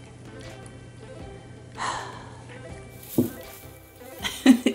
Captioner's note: sighing; laughter